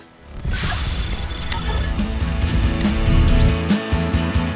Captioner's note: energetic electrical boom